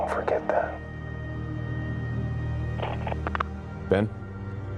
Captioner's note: line clicks